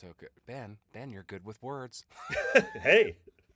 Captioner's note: laughing